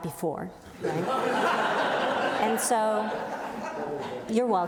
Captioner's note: audience laughs